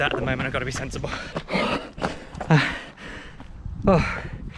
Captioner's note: panting